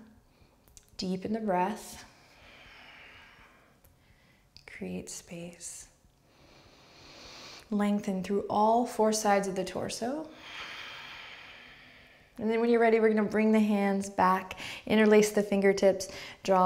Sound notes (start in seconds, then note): 2.0 outward breath; 6.2 breaths; 10.4 strong breath